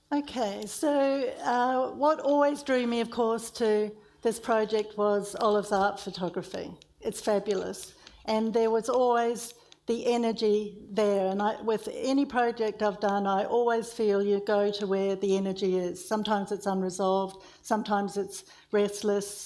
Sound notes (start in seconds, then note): none